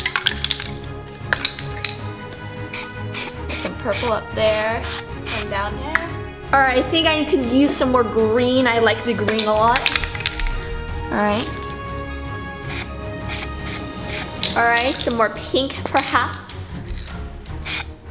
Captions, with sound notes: (dramatic music) (spray paint oozing) Purple up there, some down there. All right, I think I need to use some more green, I like the green a lot. All right. All right. Some more pink, perhaps.